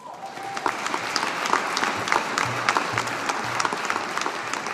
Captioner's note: audience applauding